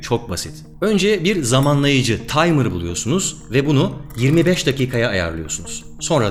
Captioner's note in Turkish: timer